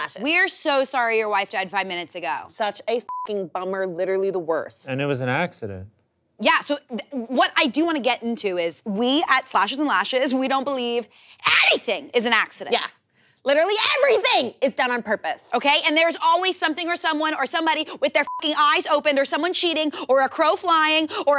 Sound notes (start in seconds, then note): 3.0 beep; 18.2 beep